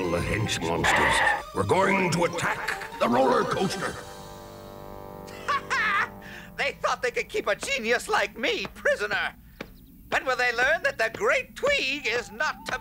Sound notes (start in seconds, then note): 5.2 Tweeg laughs